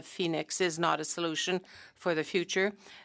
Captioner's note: speaking French